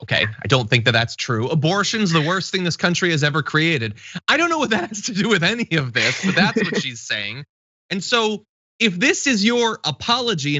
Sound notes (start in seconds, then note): 4.0 laugh